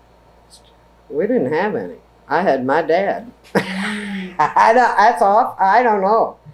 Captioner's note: laughs